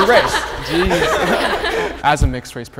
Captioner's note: group laughing